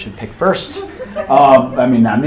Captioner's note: attendees laughing